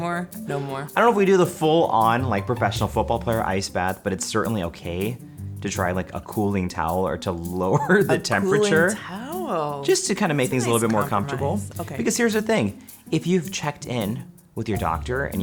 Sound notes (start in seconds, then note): 7.7 laughs